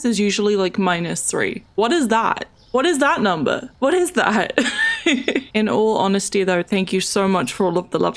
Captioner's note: laughs